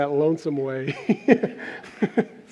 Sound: laughter

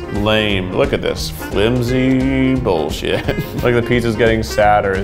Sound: laughs

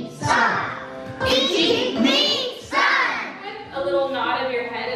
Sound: counting in Japanese; kids counting in Japanese

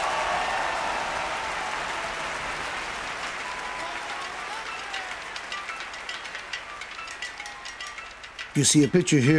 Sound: applause

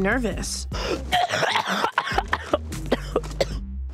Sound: coughs

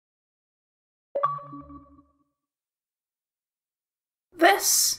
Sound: bleep Bloop

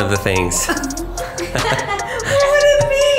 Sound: laughing

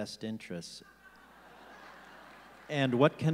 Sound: audience laughing

